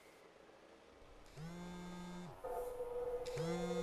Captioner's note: phone buzzing